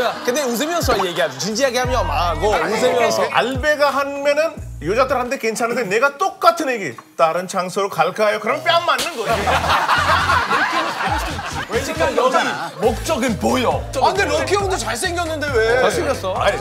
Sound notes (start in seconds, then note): 8.9 slap